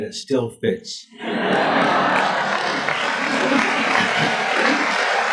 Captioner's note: audience laughs and applauds